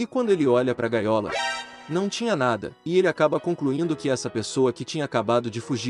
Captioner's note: alert